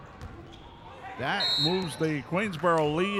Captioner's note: referee whistling